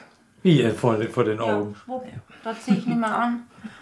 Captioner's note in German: Mutter